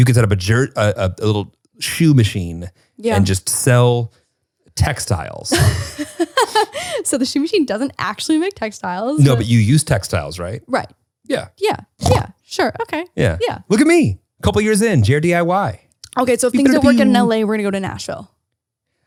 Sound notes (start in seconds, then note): 5.5 laughs; 13.2 snorts